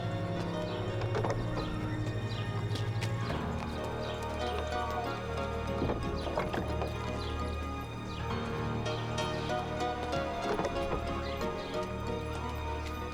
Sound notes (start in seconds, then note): 0.7 footsteps; 2.2 door opening; 5.6 door closing; 10.7 door opening